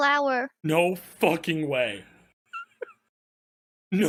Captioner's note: laughs